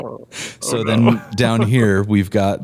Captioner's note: laughter